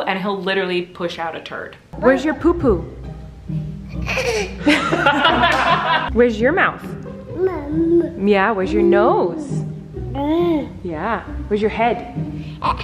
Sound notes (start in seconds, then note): 4.0 laughing; 7.3 baby talk; 10.0 baby talk